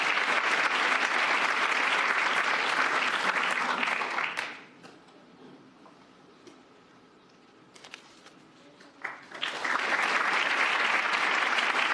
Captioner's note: cheers and applause